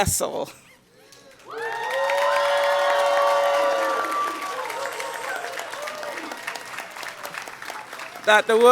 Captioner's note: cheering and Applause